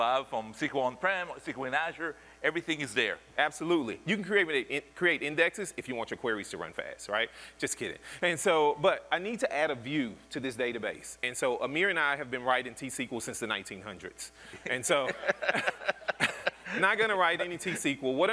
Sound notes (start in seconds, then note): 14.6 laughter